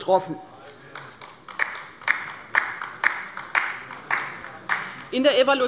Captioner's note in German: Beifall bei der LINKEN